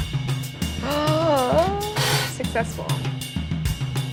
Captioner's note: gasps